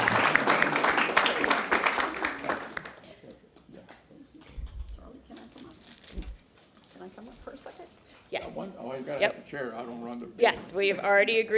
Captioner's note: applause